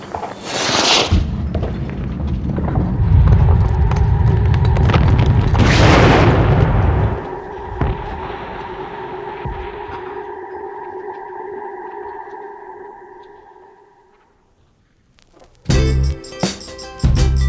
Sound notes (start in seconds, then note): 0.2 rocket launches; 4.9 explosion